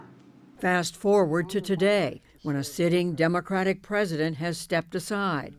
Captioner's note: voice-over